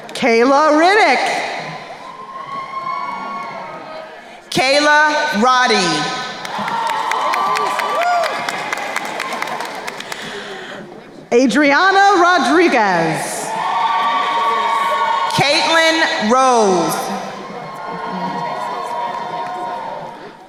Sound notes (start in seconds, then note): 1.2 crowd cheering; 6.2 crowd cheering and applauding; 13.5 crowd cheering; 17.5 crowd cheering